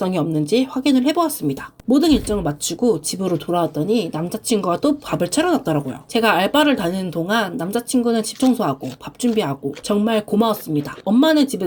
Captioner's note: eating sounds